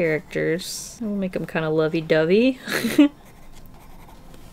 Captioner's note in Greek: Γέλια